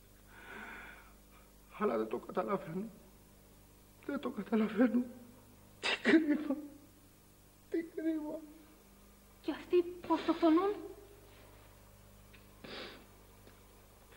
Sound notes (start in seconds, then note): 6.2 sobs